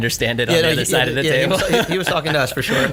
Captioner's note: laughs